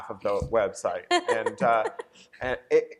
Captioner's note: laughter